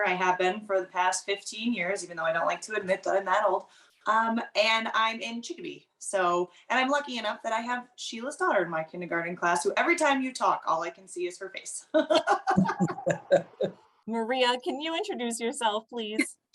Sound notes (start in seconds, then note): 11.9 laughter